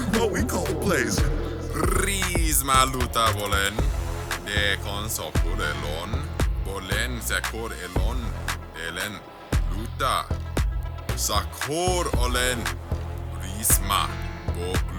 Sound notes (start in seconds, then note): 2.3 speaking new language